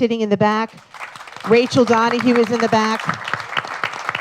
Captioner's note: applause